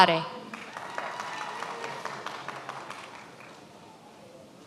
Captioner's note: many applauding